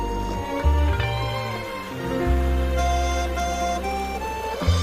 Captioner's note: running water